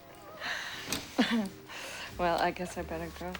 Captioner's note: both giggle